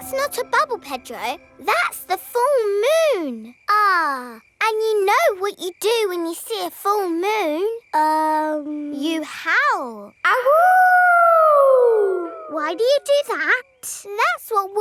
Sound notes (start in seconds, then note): 10.7 howling